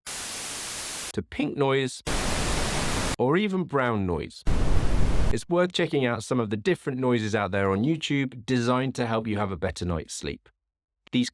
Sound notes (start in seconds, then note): 0.1 white noise; 2.0 pink noise; 4.4 brown noise